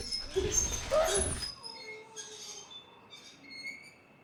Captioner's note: wheelchair squeaking